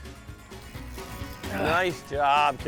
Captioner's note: grunts